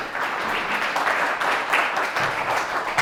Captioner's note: applause